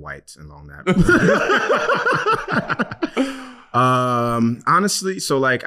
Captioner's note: laughing